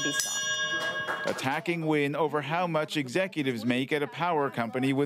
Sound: bell

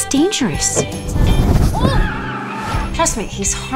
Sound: tires squealing

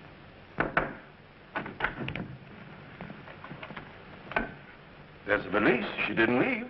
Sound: knocks on door

